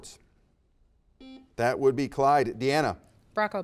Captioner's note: buzzer beeps